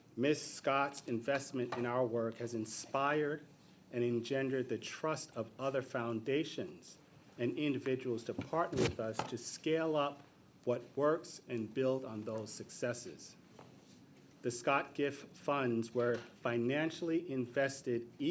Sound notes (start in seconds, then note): none